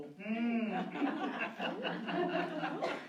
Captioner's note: laughter